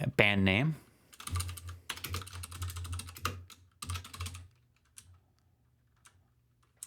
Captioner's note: typing